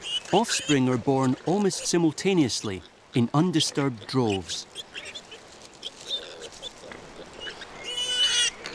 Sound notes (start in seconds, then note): 5.7 piglets squealing